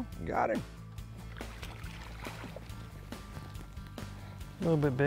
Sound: upbeat music; water splashes

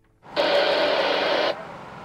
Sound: radio static

